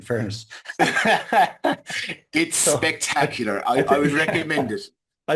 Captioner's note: laughs